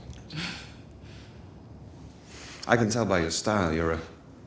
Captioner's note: chuckles